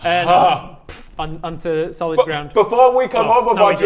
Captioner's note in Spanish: pfft